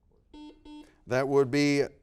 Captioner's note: buzzer beeping